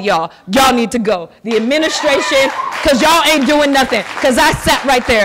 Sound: applause and cheering

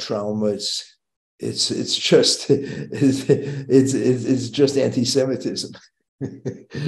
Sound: chuckling

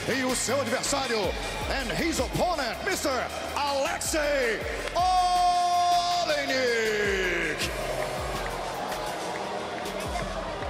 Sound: speaking foreign language

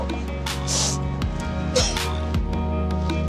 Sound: both sobbing

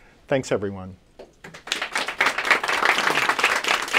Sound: applause

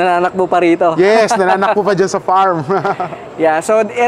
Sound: laughs

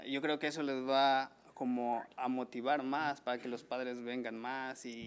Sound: man speaking foreign language

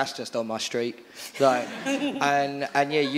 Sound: audience laughing

